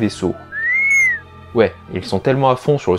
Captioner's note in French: R2 siffle tristement